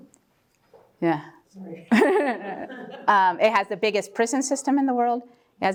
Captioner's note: laugh